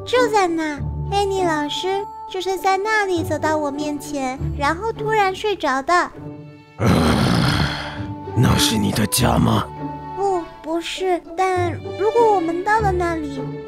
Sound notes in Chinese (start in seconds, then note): 6.7 埋怨声